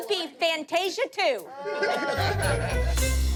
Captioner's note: laughter